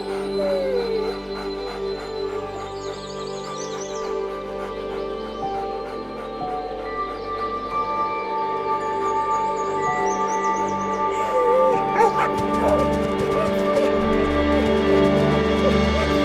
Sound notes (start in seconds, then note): 0.3 whines; 1.8 dogs panting; 1.8 tranquil music; 11.2 barks; 11.9 rousing music